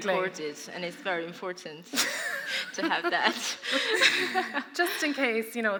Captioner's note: laughter